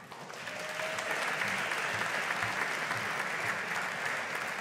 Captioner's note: audience applauding